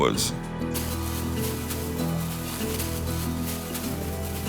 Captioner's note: brush rustling